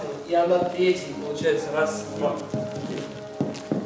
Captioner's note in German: spricht Russisch